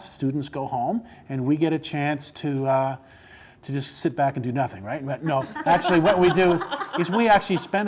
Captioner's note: laughing